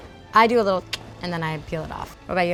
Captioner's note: mouth clicking